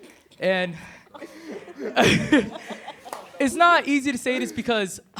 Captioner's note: laughs